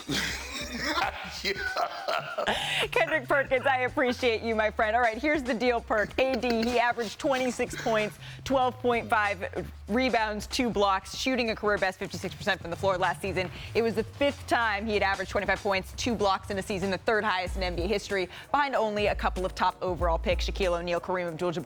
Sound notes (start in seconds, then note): 7.3 laughter